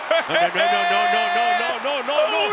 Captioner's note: laugh